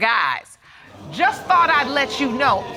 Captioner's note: audience gasps